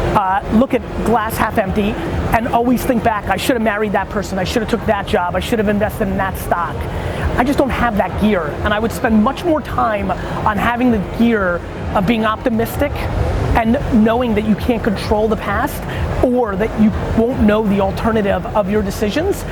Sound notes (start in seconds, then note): none